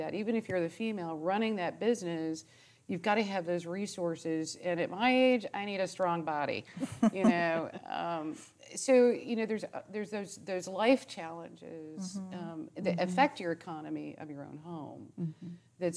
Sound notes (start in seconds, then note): 6.8 chuckling